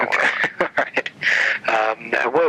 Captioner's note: laughter